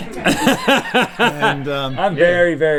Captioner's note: laughing